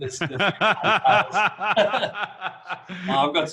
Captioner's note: laughing